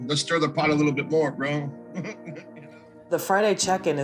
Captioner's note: chuckles